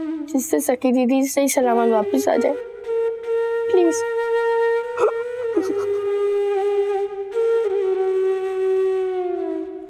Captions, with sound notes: that can help my sister Sakhi come back home safely. Please. [sobbing]